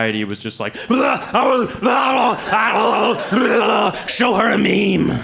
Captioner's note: brain demon noises